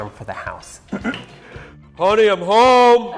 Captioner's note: clears throat